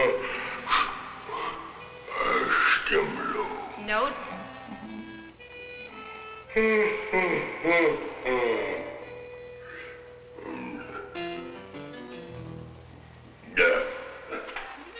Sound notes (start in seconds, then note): 5.9 yawning; 10.6 speaking in a foreign language